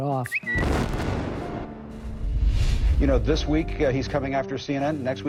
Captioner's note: explosion booming